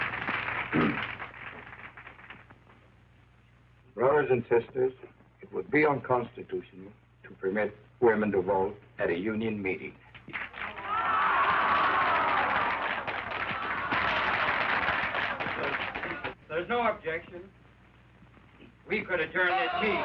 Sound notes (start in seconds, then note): 0.7 clears throat; 10.7 women booing